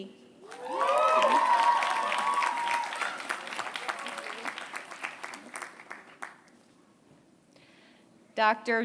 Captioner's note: applause